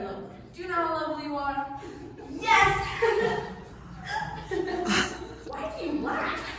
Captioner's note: laughs gleefully